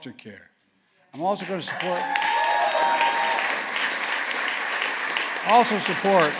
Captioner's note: applause